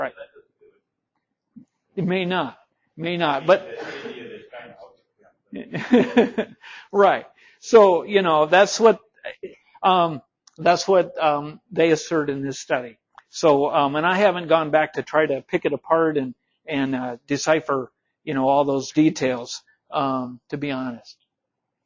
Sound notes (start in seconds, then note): 5.5 instructor laughing